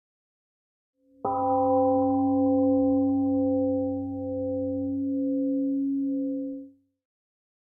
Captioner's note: temple gong rings and fades